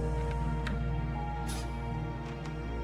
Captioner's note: shutters creak